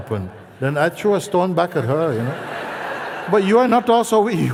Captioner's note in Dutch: gelach